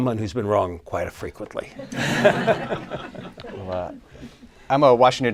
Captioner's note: laughter